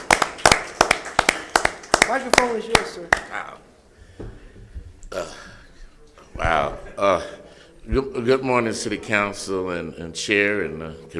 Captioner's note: applause